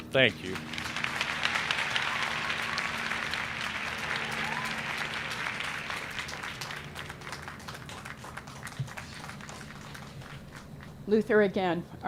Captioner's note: applause